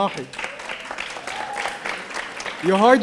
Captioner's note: audience applauding